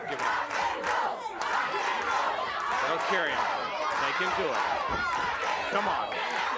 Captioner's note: applause